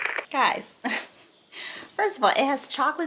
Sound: chuckles

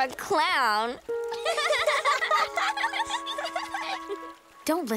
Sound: laughing

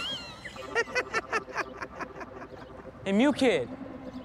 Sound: laughs

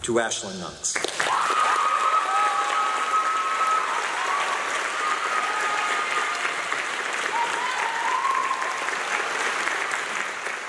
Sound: clapping and cheering

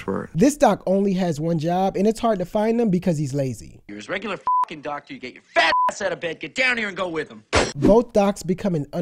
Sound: phone audio

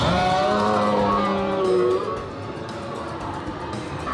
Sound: growling

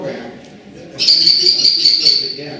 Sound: kestrel Call

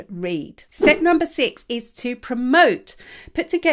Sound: image whooshes

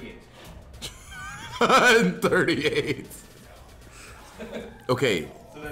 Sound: laugh

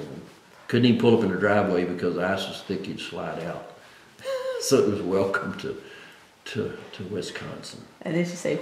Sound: laughs

